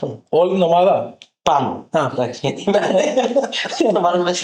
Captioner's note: laughter